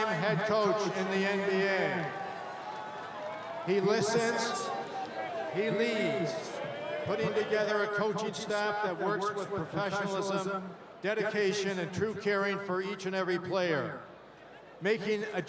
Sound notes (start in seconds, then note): 1.8 applause; 3.3 cheering